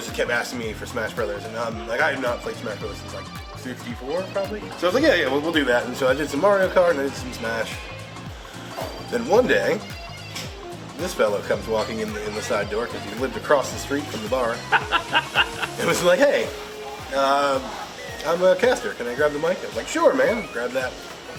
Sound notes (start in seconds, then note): 14.5 laughs